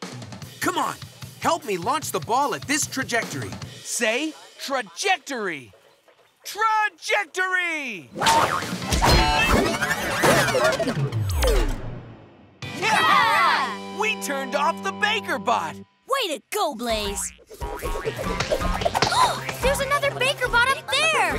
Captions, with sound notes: Come on, help me launch the ball at this trajectory. Say trajectory! Trajectory! [cheering] We turned off the baker bot! Way to go Blaze! There's another baker bot up there!